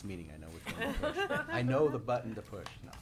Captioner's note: laughing